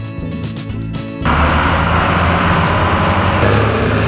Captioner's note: grader Engine Sound; wheel Loader Engine Sound